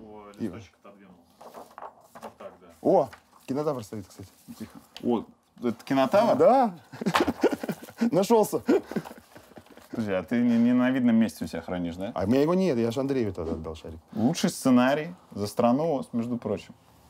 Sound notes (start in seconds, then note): 6.8 laughs